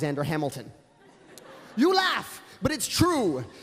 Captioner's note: laughter